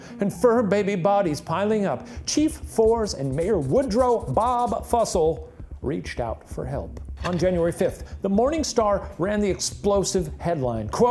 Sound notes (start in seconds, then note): 7.7 slide clicks